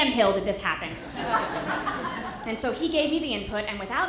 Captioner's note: audience laughter